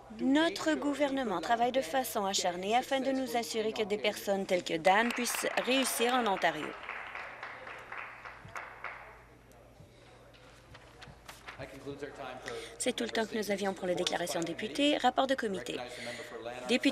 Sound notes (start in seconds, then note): 8.2 some Applause